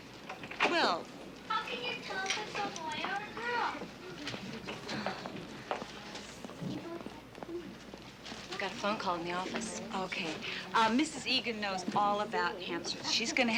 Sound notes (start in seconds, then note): 4.5 chuckles softly; 6.4 indistinct chatter